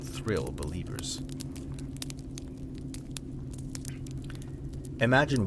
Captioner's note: fire crackles